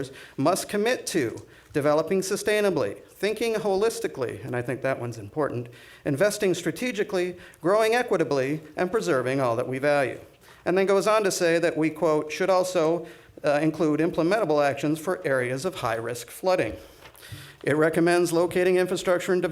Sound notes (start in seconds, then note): none